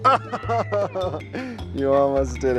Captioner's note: dad laughing; gentle music